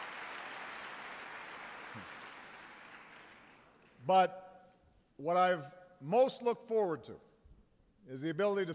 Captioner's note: applause